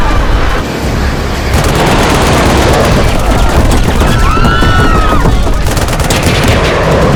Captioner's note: shooting